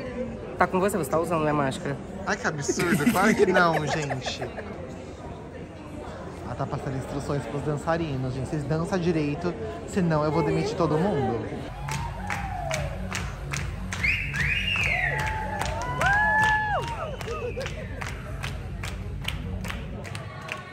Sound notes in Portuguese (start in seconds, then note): 2.6 risos; 13.8 palmas; 13.9 assobio; 14.9 gritos; 17.4 palmas